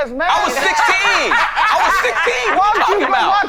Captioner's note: all laughing